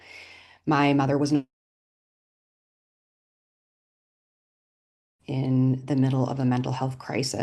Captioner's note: audio drops